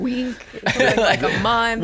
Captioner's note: laughing